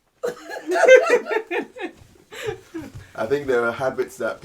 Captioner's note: laughing in unison